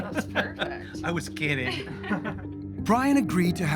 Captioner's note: laughing